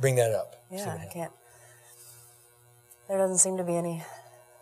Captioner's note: deep breathing